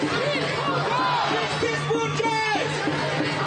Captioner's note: chanting; chanting